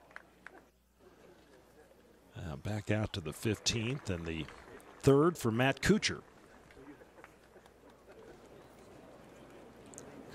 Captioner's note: applause